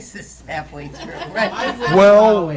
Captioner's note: laughter